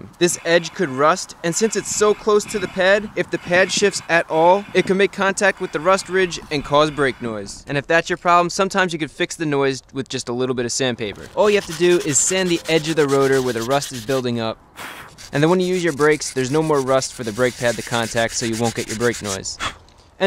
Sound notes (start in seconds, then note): 14.7 blows on brake rotor